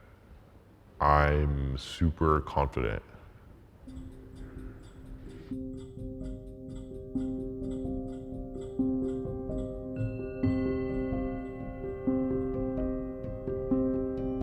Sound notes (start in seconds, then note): 4.0 gentle serene music; 9.5 bell dings